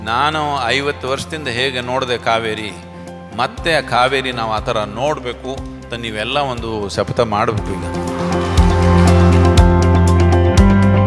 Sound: speaking in Kannada – not transcribed

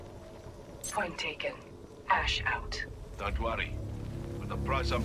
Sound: radio

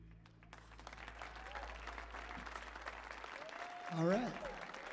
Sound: audience applauding

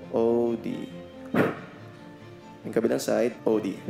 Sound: blows air

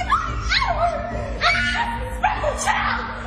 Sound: dramatic music; screaming

